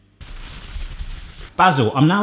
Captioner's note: scratching